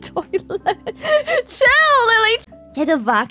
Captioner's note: laughs